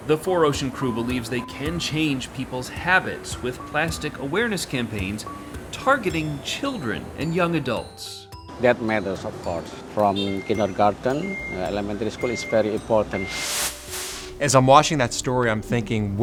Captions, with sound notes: the 4Ocean crew believes they can change people's habits with plastic awareness campaigns targeting children and young adults. - That matters, of course, from kindergarten, elementary school is very important. (air whooshing) - As I'm watching that story, I'm thinking,